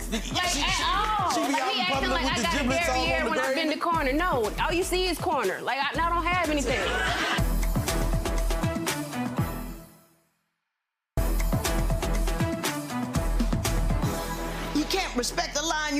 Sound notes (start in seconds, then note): 6.8 audience laughing; 8.1 dramatic upbeat music; 13.0 dramatic upbeat music